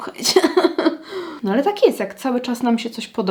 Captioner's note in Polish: śmiech